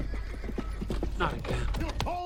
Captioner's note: hooves approaching